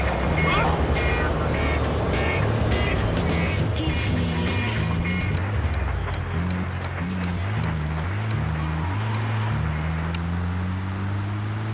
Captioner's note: car engine roaring; upbeat music; car engine roaring